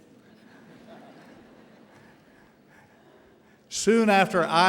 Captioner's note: audience laughing